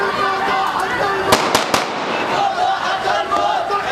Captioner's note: crowd chanting; three gunshots; crowd continues chanting